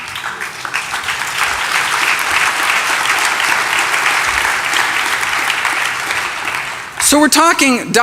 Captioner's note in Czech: Potlesk